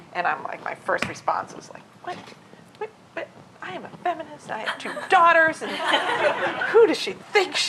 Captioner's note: laughter